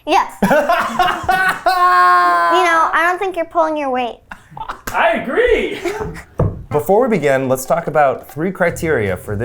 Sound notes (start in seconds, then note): 0.4 laughs; 5.8 laughing